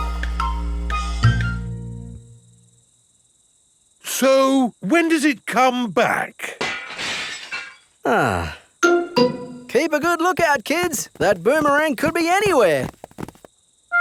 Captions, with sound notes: So when does it come back? (GLASS SHATTERS) Ah! Keep a good look out, kids. That boomerang could be anywhere!